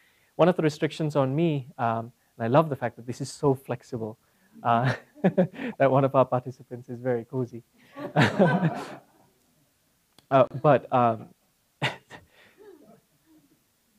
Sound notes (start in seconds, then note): 4.7 laugh; 8.0 laugh